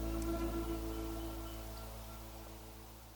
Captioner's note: birds chirp